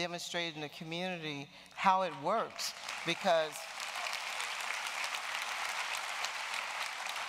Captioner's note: applause